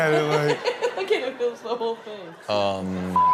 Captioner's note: laughing